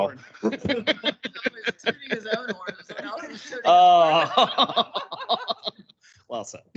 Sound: council members laugh

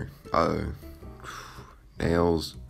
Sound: breath

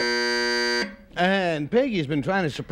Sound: buzzer sounds

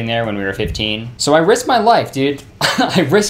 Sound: laughing

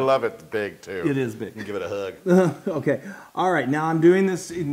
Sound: laugh

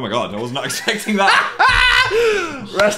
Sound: laughs

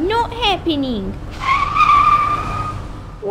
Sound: screech!

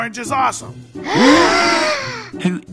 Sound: gasp

